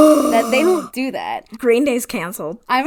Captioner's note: gasps